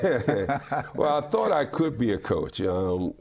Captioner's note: laughing